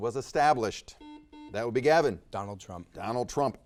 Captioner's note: buzzer dings